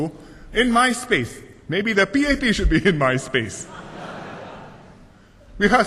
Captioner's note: laughter